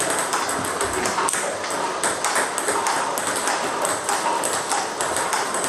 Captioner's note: ball ping pong hitting continues